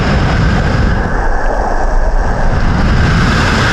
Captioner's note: sound underwater